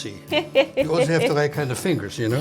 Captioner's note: laughing